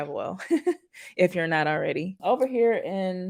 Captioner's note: chuckles